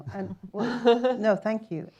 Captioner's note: chuckles